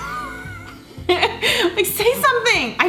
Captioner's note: both laugh